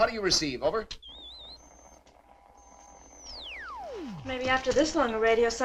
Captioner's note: radio whistling